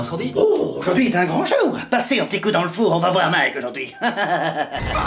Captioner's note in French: rires